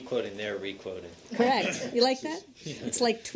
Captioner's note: laughter